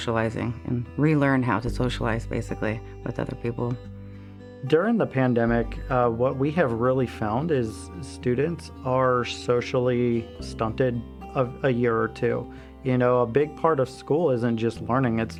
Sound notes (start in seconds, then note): none